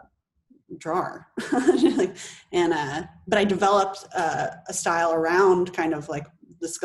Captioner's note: laughs